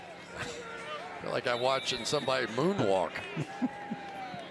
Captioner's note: laughs